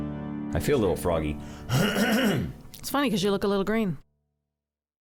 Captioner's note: throat clearing